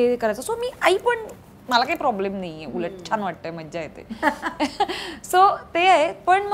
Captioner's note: Chuckles